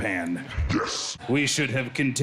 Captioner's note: monstrous voice